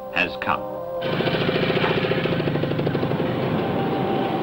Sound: engines humming

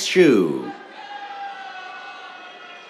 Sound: cheers

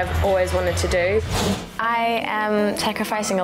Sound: thoughtful music; whooshes

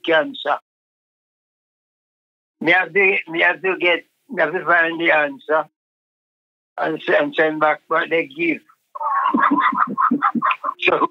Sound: laughs

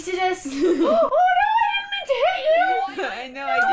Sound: gasp

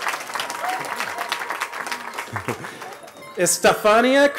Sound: cheering

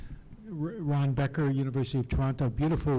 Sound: voiceover

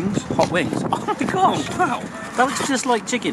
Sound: laughs

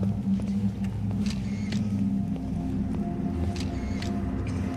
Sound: shutter sounds

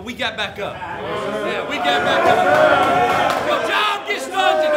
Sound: players murmuring agreement

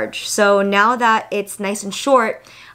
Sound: none

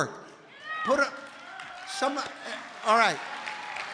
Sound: congregation cheering

